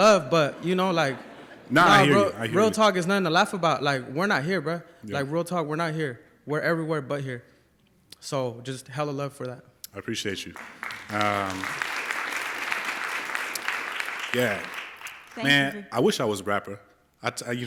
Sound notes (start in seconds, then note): 10.4 applause